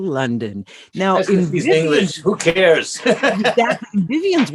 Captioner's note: laugh